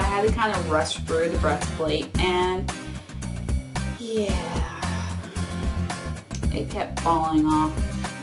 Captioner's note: sigh